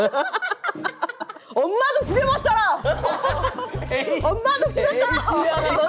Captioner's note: sudden acceleration